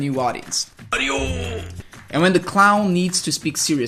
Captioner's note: speaking portuguese